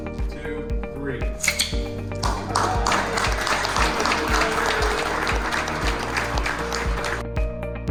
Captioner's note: scissors cutting sounds, cheering and clapping